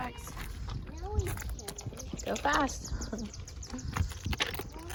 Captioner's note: crunchy gravel